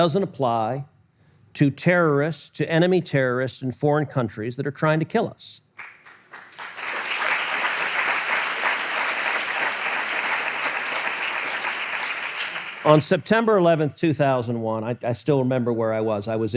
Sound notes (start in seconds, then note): 5.8 audience applause